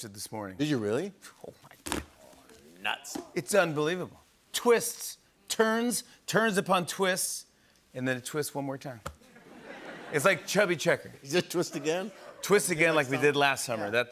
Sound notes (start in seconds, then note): 9.2 laughter